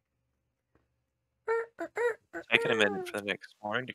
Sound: imitates rooster

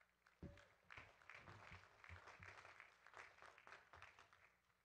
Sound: audience claps

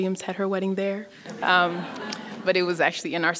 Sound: laughing

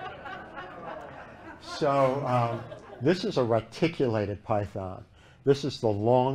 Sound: laughter

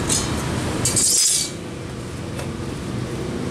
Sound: clank

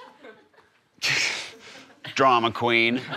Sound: scoffs

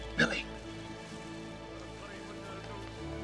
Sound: whispering

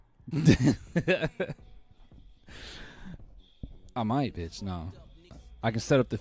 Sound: laughs

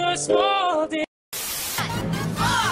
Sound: TV Static

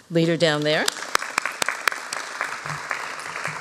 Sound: applause

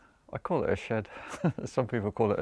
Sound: chuckles

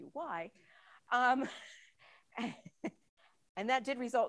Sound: laughs

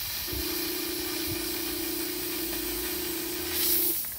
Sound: steam hissing

